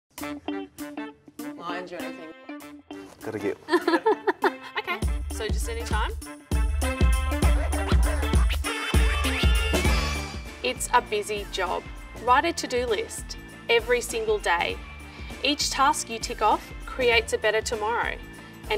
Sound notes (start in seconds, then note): 0.3 playful music; 3.6 laughs; 6.6 playful music